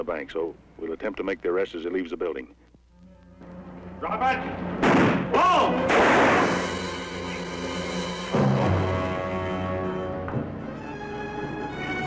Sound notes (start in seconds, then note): 2.9 suspenseful music; 5.8 gunshot bangs; 8.9 suspenseful music